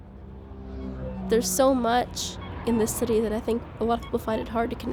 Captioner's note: traffic, crowds, cars honking, construction